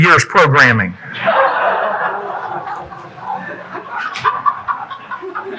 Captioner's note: audience laughing